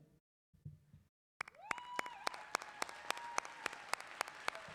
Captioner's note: clapping